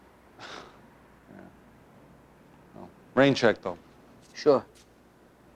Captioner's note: scoffs